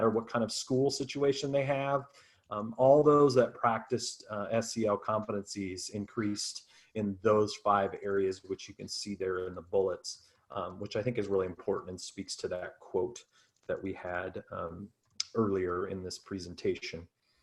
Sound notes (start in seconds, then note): none